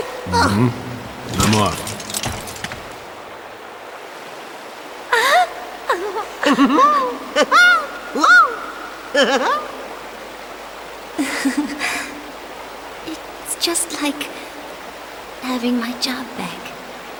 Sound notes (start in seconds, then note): 5.9 cheerful laughing; 11.2 laughs